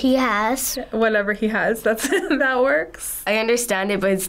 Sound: chuckles

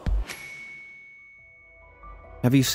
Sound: bell dings

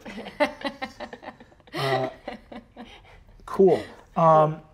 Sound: laughing

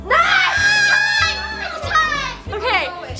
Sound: cheering

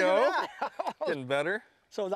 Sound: laughter

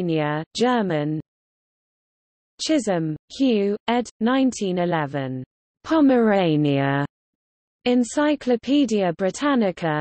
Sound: German

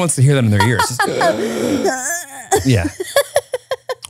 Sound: both groaning; laughing

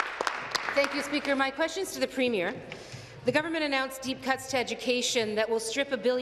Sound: some Applause

